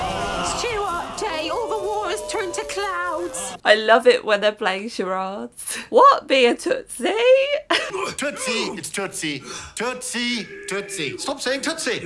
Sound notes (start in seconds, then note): 5.5 in Mary voice